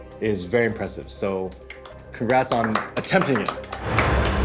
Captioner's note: clapping; dramatic music